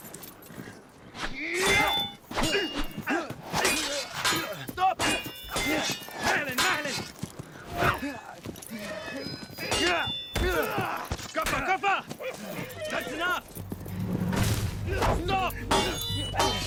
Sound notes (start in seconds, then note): 2.4 yelling and grunting; 6.3 speaking in arabic